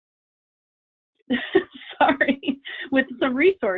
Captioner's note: laughs